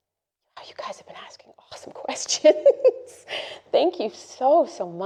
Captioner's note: laughs